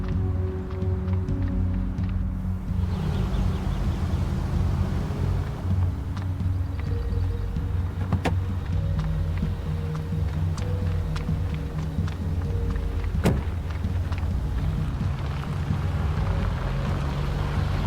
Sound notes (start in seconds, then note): 3.1 engine whirring; 8.0 car door opens; 12.8 car door closes